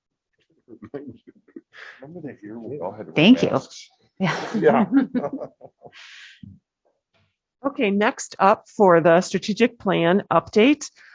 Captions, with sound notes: >>Remember that year we had to all wear masks? >>Thank you. (laughter) >>Okay, next up for the strategic plan update.